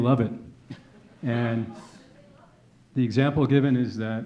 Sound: audience chuckling

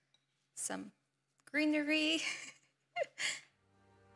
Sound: laughs

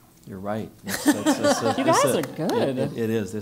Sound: laugh

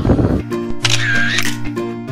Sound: camera shutter

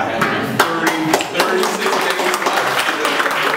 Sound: applause

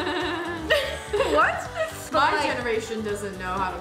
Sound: laughs

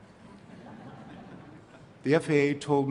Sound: laughter

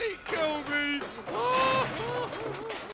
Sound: crying

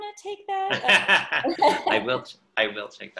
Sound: laughter

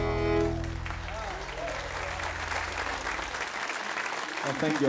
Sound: audience applauding

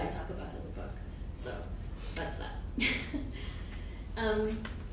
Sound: chuckles

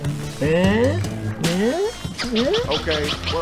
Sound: impressed noises

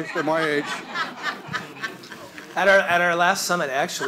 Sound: audience laughs

